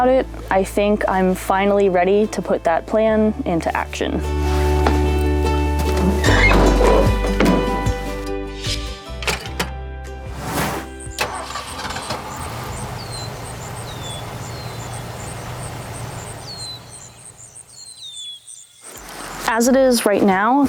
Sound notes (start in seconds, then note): 6.1 cheerful music; 11.0 engine starting, birds chirping